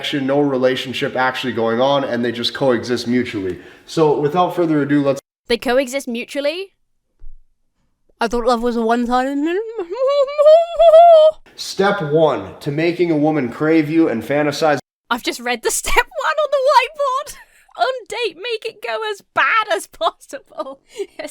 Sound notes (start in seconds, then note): 15.9 laughs